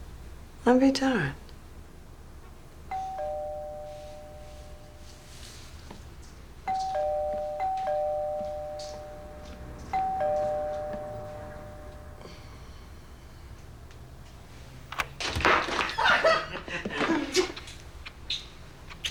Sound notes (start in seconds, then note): 2.9 doorbell rings; 6.7 ringing continues; 15.9 laughs